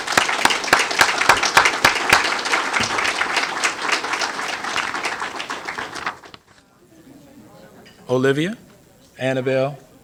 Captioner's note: applause